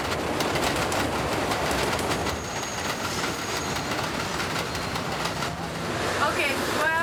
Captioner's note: train rattling